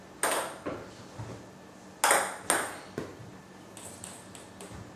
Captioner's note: balls ping pong hitting continues